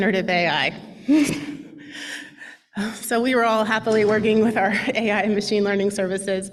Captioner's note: laughs